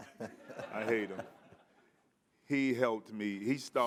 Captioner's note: audience laughing